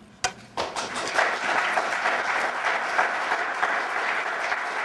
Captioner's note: applause